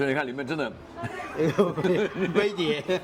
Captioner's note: laughs